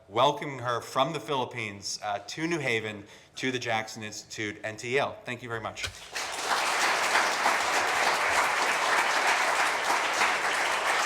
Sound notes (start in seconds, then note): 5.9 audience clapping